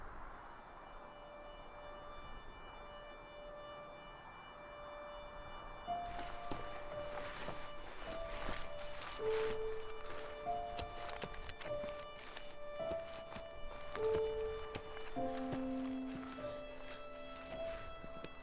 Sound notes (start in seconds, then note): 0.2 soft dramatic music; 5.9 footsteps pattering; 14.9 Ellie breathes heavily